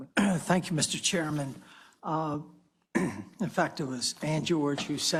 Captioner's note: cough